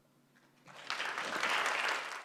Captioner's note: applause